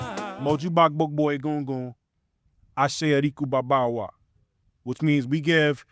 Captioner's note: speaking in foreign language